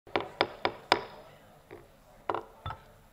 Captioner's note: gavel pounds